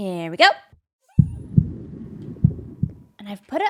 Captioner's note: heartbeat